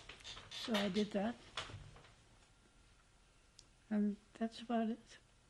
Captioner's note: pauses for 3 seconds